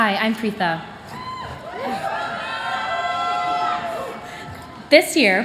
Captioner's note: cheering